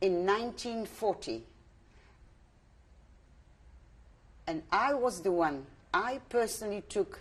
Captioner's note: pauses for 3 seconds